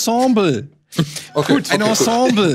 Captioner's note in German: Lachen